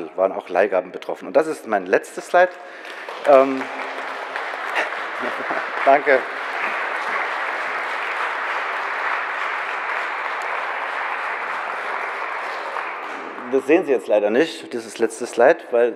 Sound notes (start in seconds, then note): 2.3 general applause